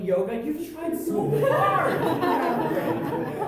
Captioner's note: audience laughter